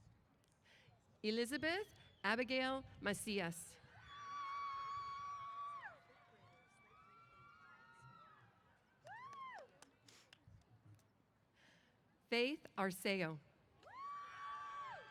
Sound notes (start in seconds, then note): 3.9 cheers; 13.8 cheers